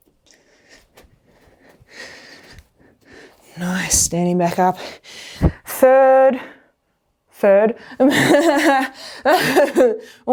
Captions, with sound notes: Standing back up. Third... third. [Laughs]